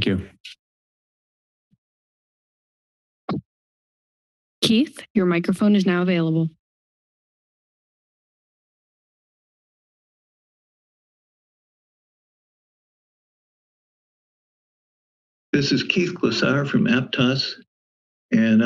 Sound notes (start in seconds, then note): 3.3 thud; 7.8 silence